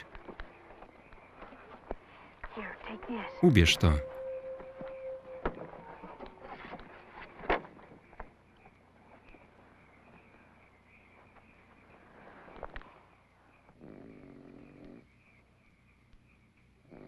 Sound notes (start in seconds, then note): 13.8 snoring